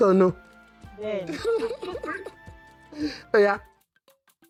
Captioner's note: laughs